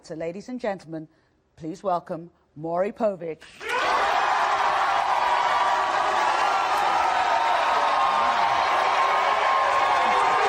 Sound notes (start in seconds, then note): 3.6 audience cheering and applauding